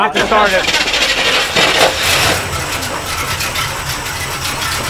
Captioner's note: engine starts